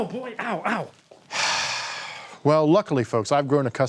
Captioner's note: sighing